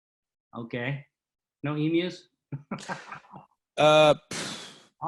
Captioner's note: laughs